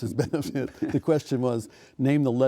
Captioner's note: laughing